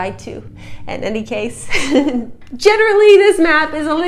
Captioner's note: chuckle